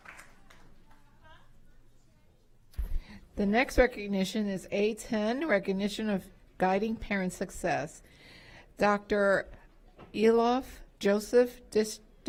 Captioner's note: applause